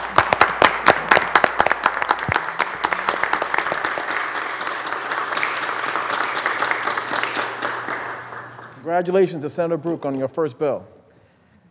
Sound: applause

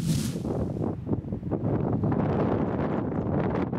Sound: gusts of strong wind

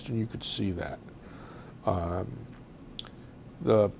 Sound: pauses for 3 seconds

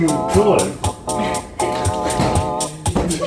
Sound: laughs

